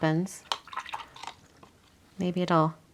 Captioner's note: water splashing